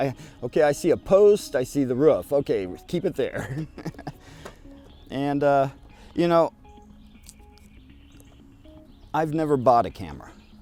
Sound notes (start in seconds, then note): 3.3 laughs